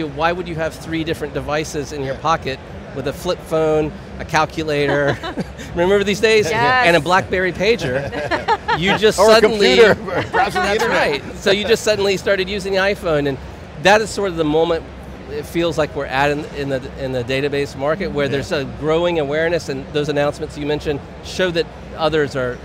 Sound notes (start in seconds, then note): 4.7 chuckles; 7.7 all chuckling